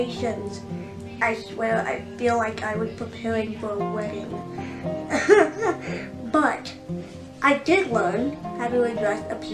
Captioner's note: giggles